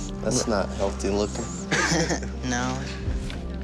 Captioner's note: chuckles